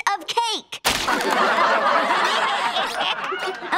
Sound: laughing

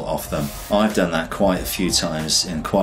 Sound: air whooshes

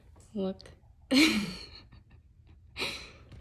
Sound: laughs

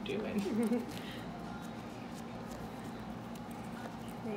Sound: laughing

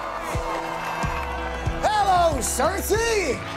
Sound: crowd cheering

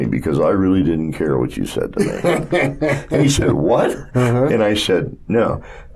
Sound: laughter

